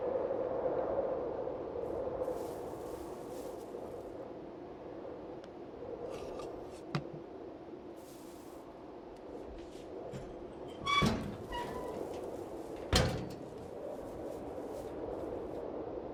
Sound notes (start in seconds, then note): 1.8 wind whistling continues; 10.1 wheelbarrow squeaking